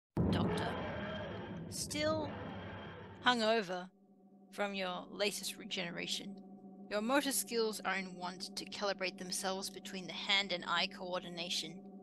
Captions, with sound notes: Doctor [TARDIS takes off] Still… hungover… from your latest regeneration, your motor skills are in want to calibrate themselves between the hand and eye coordination,